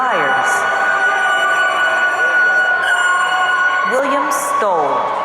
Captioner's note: audience cheering